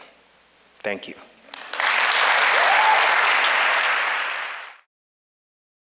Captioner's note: big applause and cheering